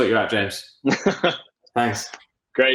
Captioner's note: laughs